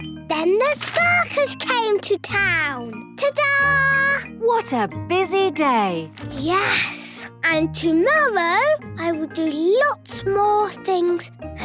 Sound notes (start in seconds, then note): none